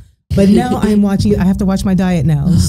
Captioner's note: laughing